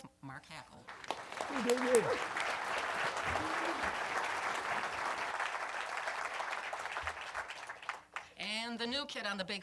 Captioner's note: applause